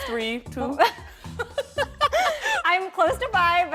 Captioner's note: both laugh